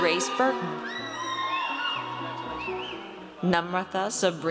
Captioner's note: audience cheers